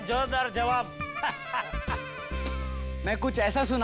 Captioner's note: chuckles